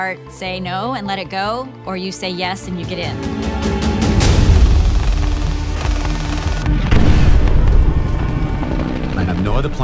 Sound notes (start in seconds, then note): 4.4 gunfire; 6.8 explosion; 8.8 helicopters